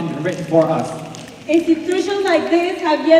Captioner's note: snapping